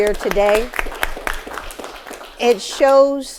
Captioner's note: audience applauding